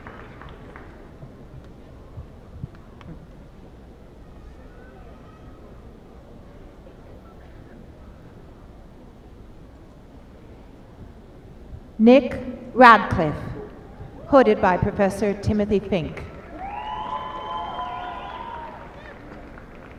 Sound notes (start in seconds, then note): 13.6 applause